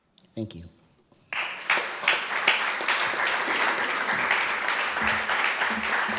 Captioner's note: applause